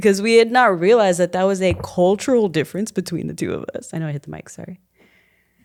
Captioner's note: none